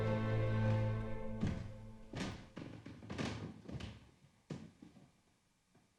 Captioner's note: stairs cracking under footsteps